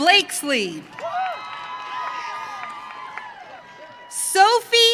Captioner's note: audience cheering